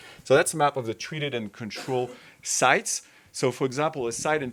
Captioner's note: attendee coughing